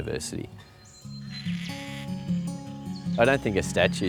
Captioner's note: creaking bird call